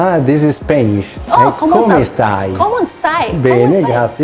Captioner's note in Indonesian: dalam bahasa Italia